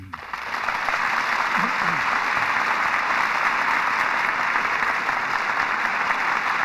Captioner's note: audience applauding